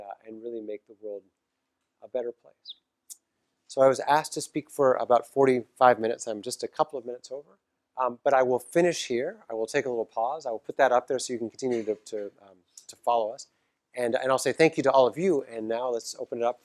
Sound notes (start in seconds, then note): 11.7 cough